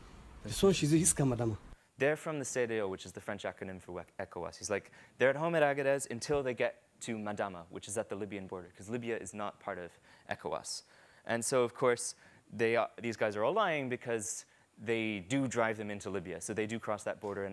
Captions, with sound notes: There're from the (speaks in a foreign language) which is the French acronym for ECOWAS. He's like, they're at home at Agadez until they get to Madama, which is at the Libyan border 'cause Libya is not part of ECOWAS. And so of course these guys are all lying because they do drive them into Libya. So they do cross that border.